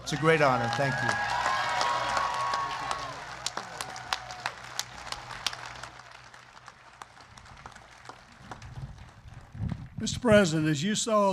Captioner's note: applause